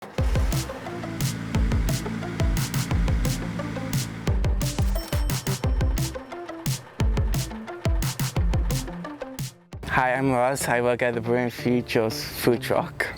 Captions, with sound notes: [Upbeat music plays with the sounds of a truck engine driving] [Truck braking to a stop and a cash register opening chime sound effects] [Truck idling sound effect] [Upbeat music fades] Hi, I'm Russ. I work at the Brewing Futures food truck.